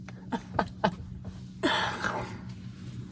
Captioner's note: laughing